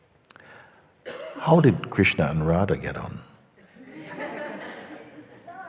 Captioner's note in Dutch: gelach